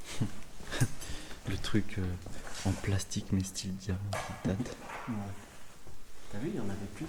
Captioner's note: laughs